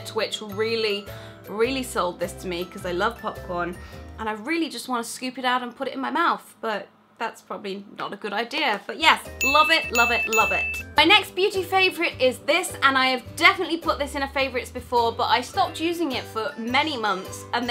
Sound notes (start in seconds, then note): 9.4 bell ringing